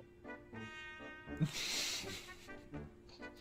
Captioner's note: snickers